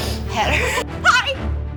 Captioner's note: laugh